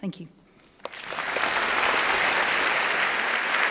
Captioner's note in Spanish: Aplausos